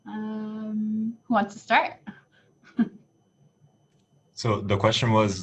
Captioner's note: laughs